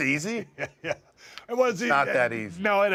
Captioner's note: laugh